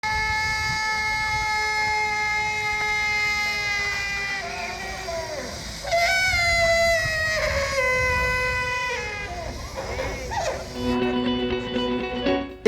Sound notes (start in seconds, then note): 0.0 sound of mechanical elephant trumpeting